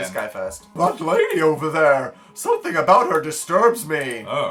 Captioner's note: silly voice